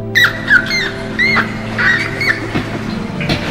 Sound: rat squealing

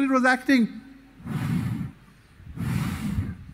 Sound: sound of blowing air

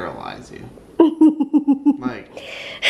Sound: giggling

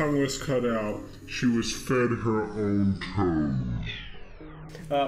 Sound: distorted

